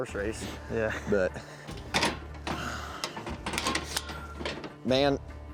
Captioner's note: closing gate